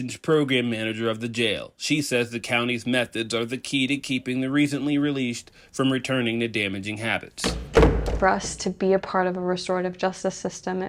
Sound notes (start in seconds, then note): 7.4 door clicking